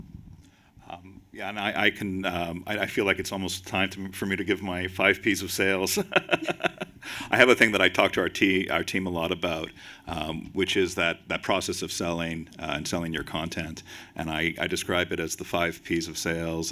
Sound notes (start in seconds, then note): 6.0 laughs